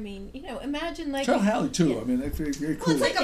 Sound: voiceover

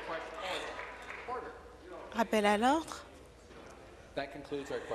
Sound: applause

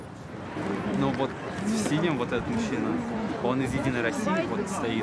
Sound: speaking in foreign language

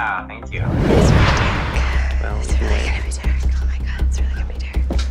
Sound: whispering faintly

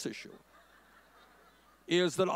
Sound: audience laughing

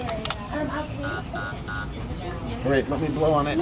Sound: card reader beeps

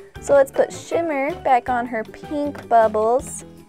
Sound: none

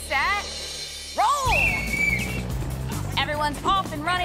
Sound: whistle blows

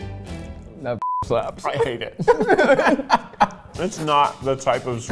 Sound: laughing

